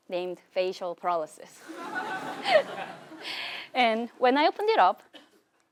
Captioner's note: laugh